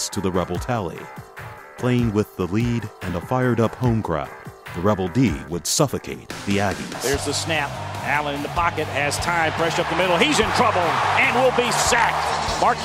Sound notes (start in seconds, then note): 7.2 voiceover